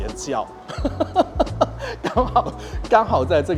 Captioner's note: laughs